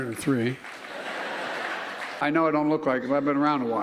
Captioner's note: laughter